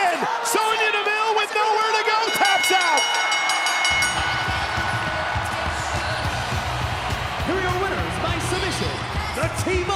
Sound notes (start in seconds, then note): 2.2 bell dinging; 4.7 crowd cheering